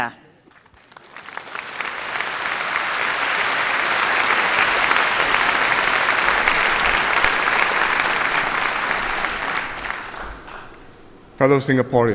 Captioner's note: applause